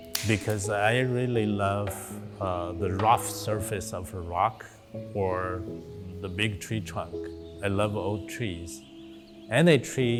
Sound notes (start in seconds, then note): 6.4 birds singing softly